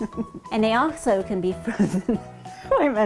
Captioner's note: laughing